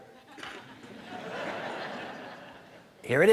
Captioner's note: audience laughing